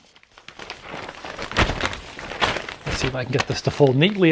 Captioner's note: paper crackling